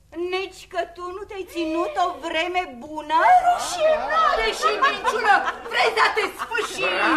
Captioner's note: laughter